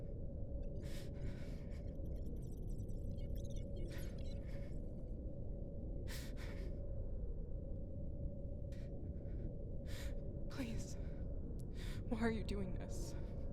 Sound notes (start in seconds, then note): 2.0 rapid digital beeping; 6.0 woman breathing heavily